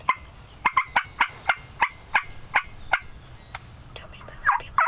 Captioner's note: turkey call chirping